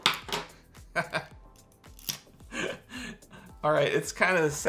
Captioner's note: laughs